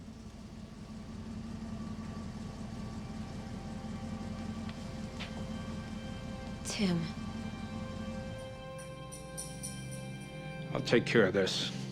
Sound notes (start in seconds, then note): 1.1 car engine running